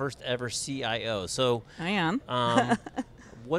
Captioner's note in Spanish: risas